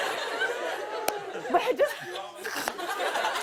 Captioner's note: laughs